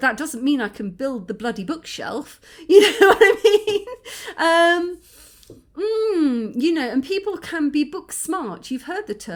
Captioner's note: laughing